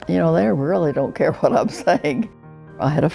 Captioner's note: chuckling